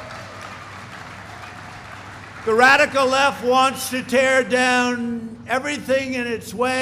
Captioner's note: applause